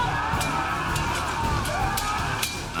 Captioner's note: men shouting; swords clanging